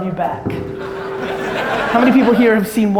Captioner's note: audience laughter